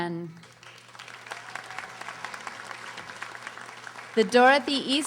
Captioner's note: audience applauding